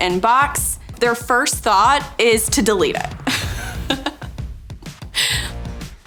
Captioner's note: laughs